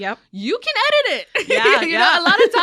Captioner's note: laughs